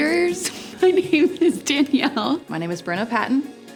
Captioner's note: giggles